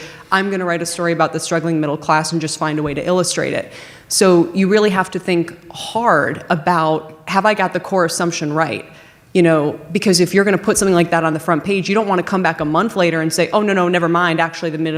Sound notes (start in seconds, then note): none